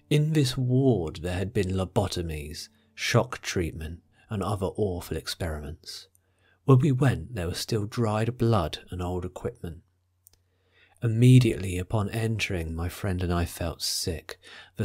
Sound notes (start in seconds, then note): none